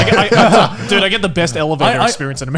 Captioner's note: laughing